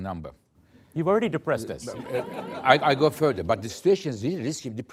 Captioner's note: laughter